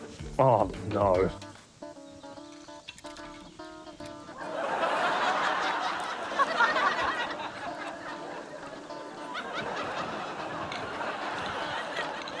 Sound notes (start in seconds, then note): 4.5 laughter